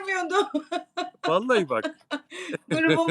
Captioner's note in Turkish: kahkaha